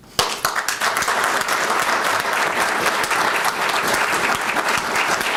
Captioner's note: applause